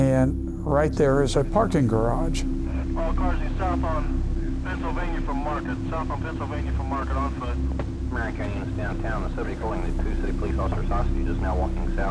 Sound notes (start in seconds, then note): 3.0 officer On Radio